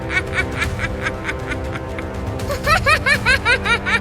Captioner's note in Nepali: हास्य